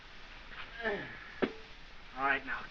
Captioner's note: grunts